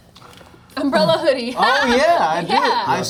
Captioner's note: laughs